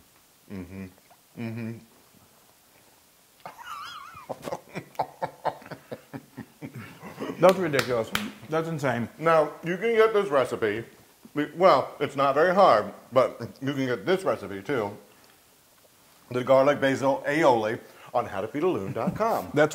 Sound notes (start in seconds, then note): 3.4 laugh